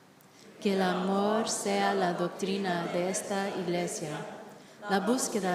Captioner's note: all reciting Aspiration in Spanish